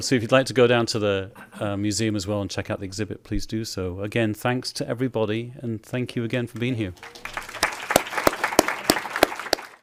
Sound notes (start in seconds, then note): 6.9 applause